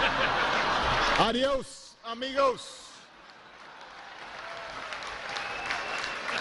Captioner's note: laughter